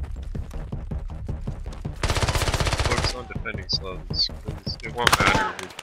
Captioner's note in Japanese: 足音